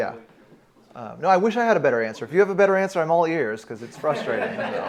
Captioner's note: laughter